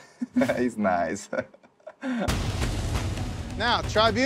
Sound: laughs

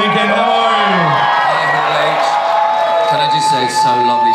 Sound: audience cheers

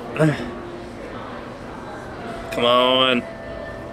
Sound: grunts

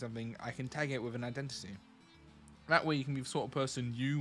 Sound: none

